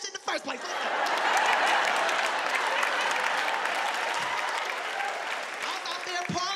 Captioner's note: audience laughing; audience cheering